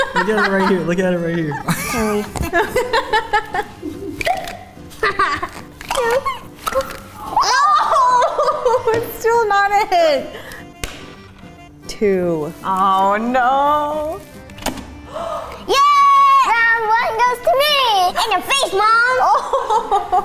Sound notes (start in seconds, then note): 0.0 laughs; 5.7 toy pops